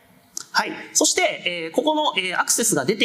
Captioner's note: speaking japanese